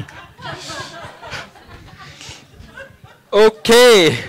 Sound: laughing

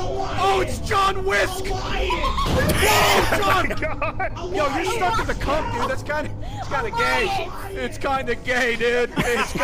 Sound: laughs

